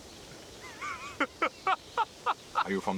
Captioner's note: laughing